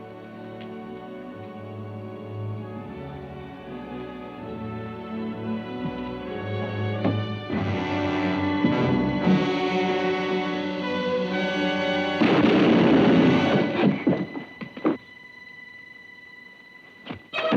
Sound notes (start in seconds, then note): 7.5 dramatic music; 12.2 shotgun booms